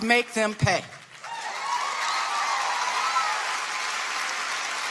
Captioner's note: audience applauding